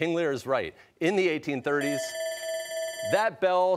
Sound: bell ringing

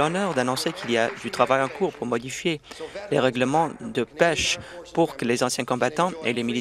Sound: some Applause

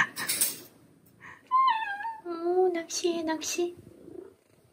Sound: meow

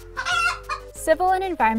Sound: chicken clucking

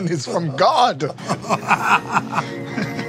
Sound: laughter

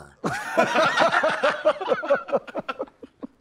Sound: laughs

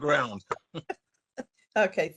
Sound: laughing

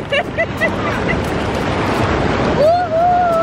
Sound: laughs

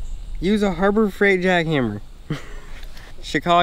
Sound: chuckles

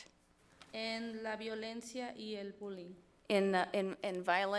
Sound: speaks foreign language

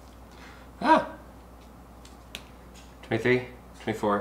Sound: yelps

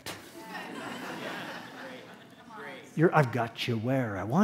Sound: laughter

